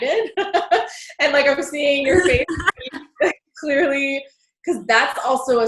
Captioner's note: voice muffled